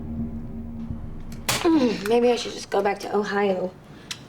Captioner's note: grunts